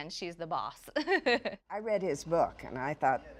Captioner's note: laughs